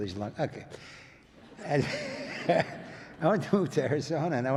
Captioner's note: audience laughs